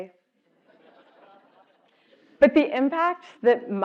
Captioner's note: laugh